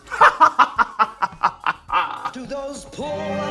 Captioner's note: laughs